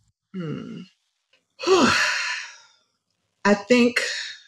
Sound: sighs

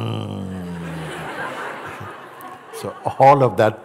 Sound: laughter

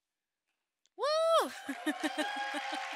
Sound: cheers; audience clapping

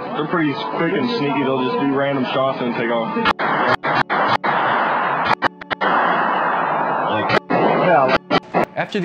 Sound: gunshots

